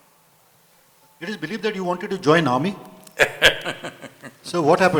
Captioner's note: Sadhguru laughs